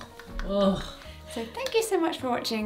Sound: laughs; groans

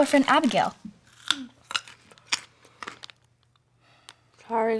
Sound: crunching

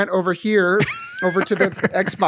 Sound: laughter

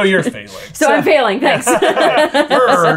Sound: laughter

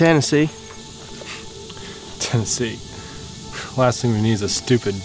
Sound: scoffs

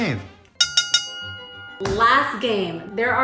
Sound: bell dinging

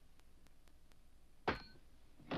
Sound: wood creaks; nail clangs

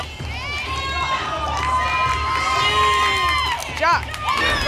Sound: audience shouting letters

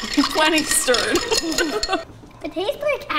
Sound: laughing

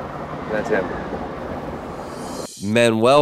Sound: whooshing

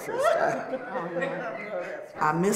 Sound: laughs

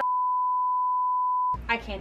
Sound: TV static

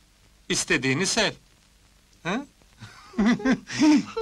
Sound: laughter

